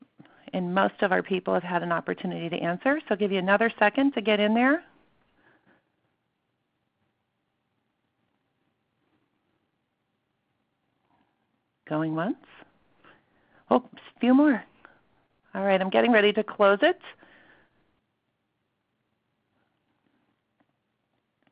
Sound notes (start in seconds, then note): 7.8 silence